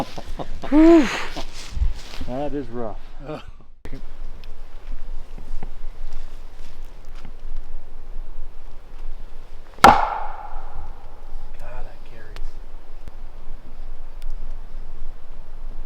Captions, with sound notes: Oh, (laughs) phew, that is rough. (wood thwacks) God, that carries.